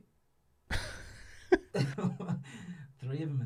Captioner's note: both laughing